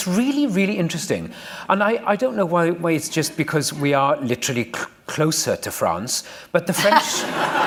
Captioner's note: laughter